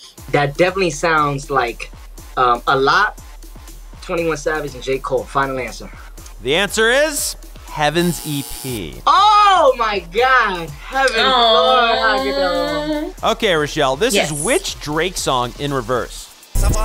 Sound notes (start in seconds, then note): 7.8 buzzer; 16.6 jumbled music